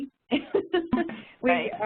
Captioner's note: laughter